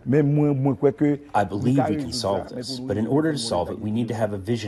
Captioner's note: through translator